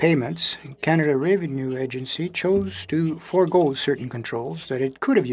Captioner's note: speaking French